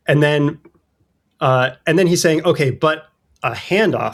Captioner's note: uh